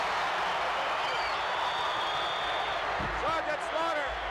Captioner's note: crowd cheers; whistles blowing